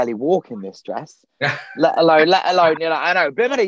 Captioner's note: laughing